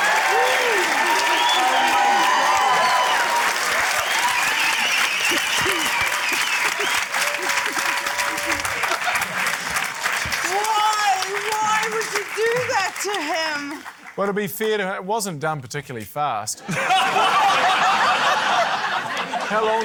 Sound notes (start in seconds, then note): 0.2 cheering, applause; 2.5 cheering, applause, whistling; 16.6 laughter